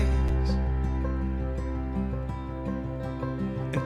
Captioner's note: none